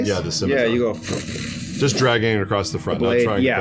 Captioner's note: scraping